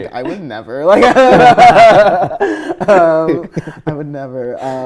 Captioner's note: laughing